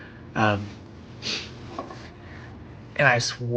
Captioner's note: laughing, softly